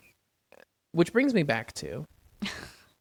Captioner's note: laughs